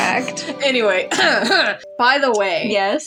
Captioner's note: giggle; laugh; romantic Music; clears Throat